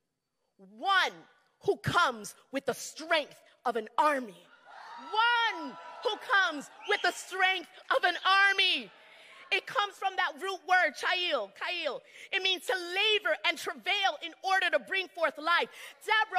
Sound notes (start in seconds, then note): 4.5 crowd cheering